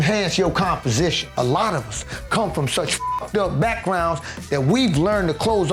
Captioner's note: beep